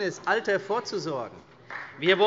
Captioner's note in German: Vereinzelter Beifall CDU, Beifall Freie Demokraten